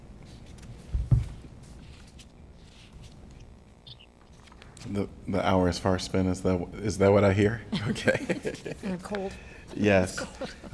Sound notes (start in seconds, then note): 7.7 laughter